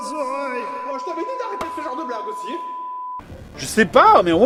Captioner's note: muffled voice